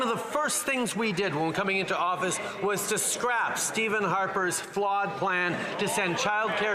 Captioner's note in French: voix de l'interprète